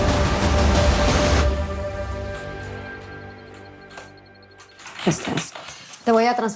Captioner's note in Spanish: Sonio al teclear